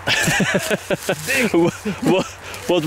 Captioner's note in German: Lachen